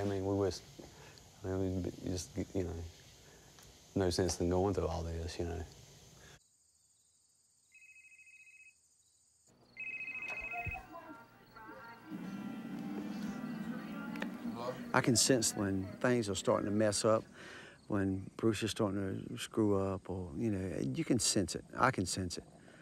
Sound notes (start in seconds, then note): 7.8 cell phone ringing